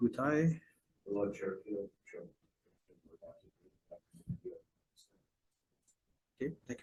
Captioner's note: faintly speaking